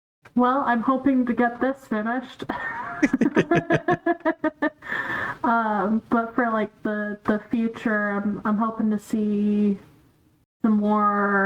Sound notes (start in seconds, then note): 2.5 laughter